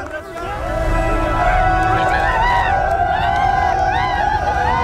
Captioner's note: cheering and celebration